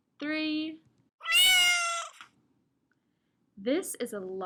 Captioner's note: cat meows